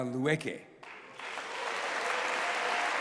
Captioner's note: applause